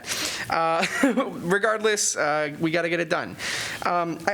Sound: laughter

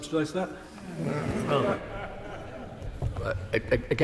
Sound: laughter from crowd

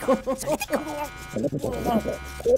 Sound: gagging

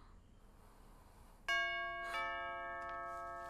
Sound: door bell

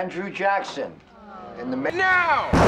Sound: staff groans; Will, as thunder crashes

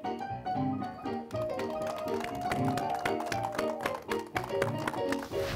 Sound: audience clapping

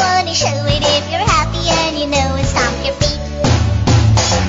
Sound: stomp stomp

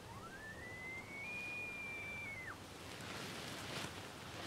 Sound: elk bugle

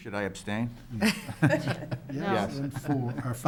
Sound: members giggling

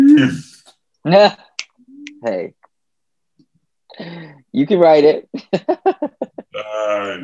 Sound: snaps; laughs

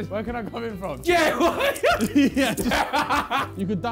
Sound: laughing

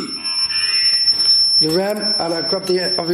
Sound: electronic buzzing

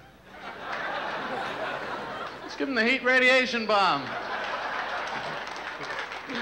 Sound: laughter

